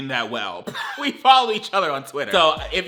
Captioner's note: laughs